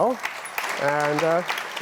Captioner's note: applause